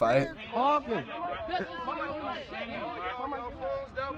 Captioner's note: onlookers jeering